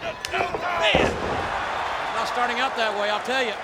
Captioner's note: hand slaps